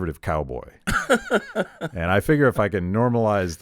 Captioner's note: laughing